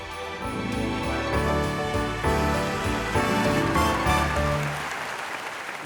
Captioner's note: upbeat bright music; audience clapping